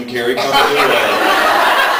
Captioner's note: laughs